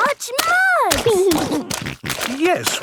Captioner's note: snorting